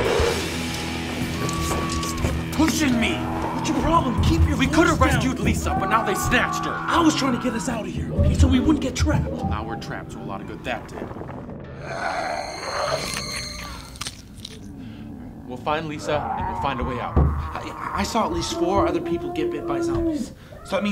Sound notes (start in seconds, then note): 1.9 hangers rattling; 12.0 zombies growling; 12.9 bones cracking